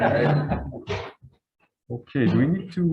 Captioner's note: group laughs